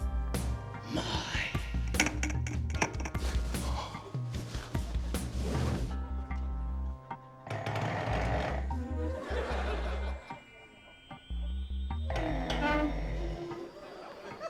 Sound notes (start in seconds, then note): 1.9 soft clattering; 3.6 gasps softly; 7.5 scraping; 12.1 scraping